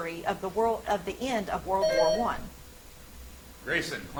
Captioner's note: buzzer chimes